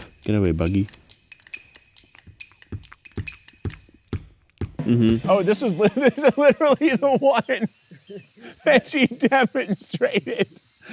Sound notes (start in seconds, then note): 5.3 laughs